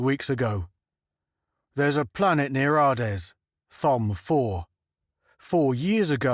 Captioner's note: london accent